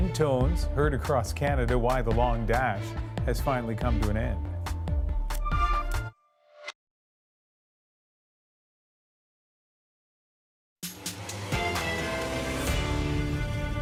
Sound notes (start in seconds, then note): 1.6 beep, beep